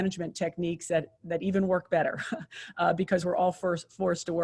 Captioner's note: chuckles